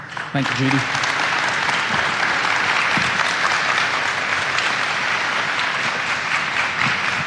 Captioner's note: audience applauding